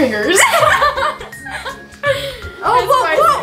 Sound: laughing

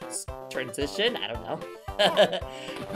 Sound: laughing

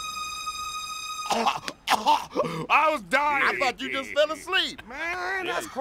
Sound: cough cough

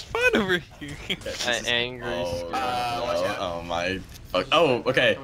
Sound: multiple worried noises

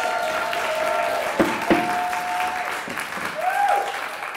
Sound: applause; gavel knocks; applause

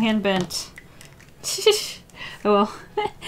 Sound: titters

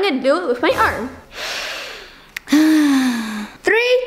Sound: sighing

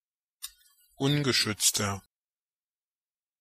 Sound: fast Pronunciation

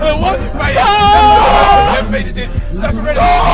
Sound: yelling

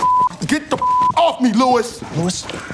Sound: beep

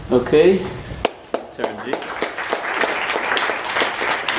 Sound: applause

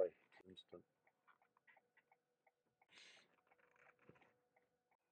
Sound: turn signal continues clicking

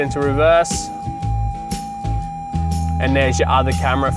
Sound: device beeping

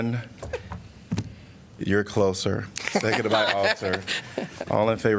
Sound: laughter

